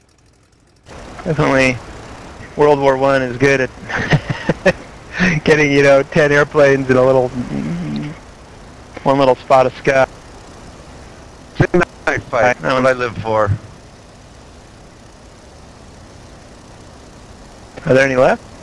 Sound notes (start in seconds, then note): 3.8 laughter